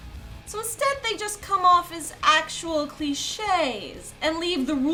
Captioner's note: voiceover